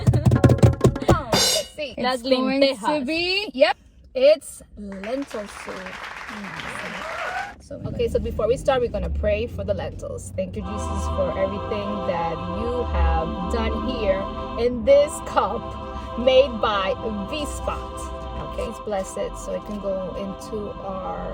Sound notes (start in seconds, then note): 0.0 drumroll sound; 5.1 crowd applause